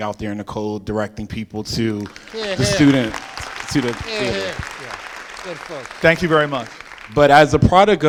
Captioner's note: applause